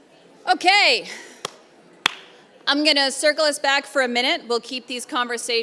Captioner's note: claps